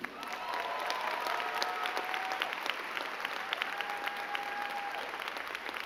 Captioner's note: crowd cheering and clapping